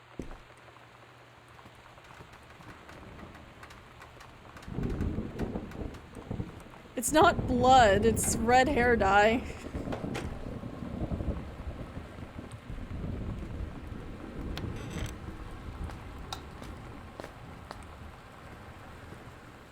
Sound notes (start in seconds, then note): 1.6 rattling; 9.4 thunder; 9.8 laugh